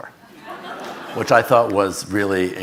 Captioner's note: audience laughing